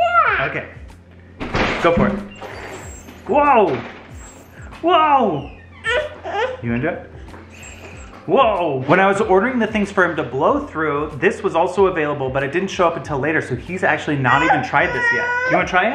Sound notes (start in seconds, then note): 4.0 blowing